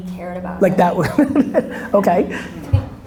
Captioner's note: laughs